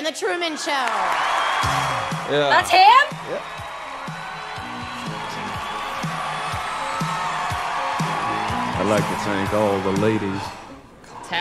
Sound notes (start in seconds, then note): 1.2 crowd cheers; 4.6 crowd cheers